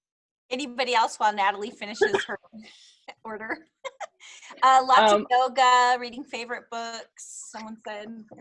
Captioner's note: laughs